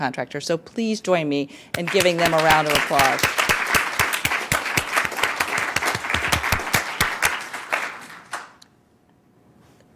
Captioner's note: applause